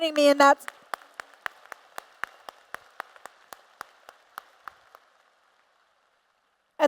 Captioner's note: applause